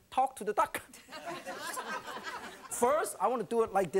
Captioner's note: laughing